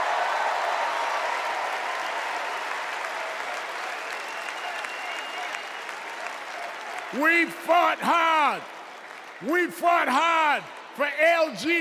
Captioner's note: cheers and applause